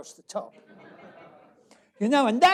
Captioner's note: laughter